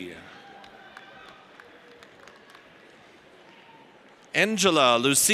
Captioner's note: audience applauds